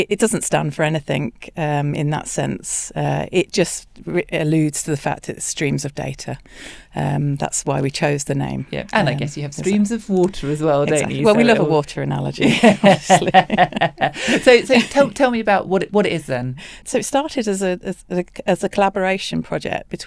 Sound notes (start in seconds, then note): 12.4 laughs